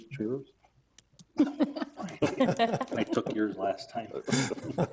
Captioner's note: all chuckling